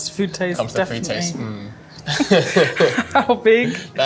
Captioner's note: both laughing